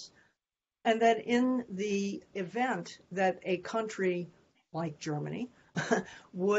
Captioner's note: laughter